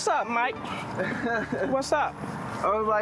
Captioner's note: laughs